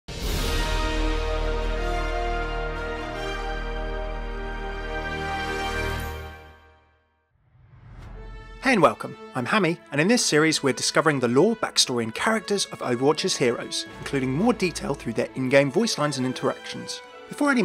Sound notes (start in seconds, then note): 0.1 heroic music; 8.9 voiceover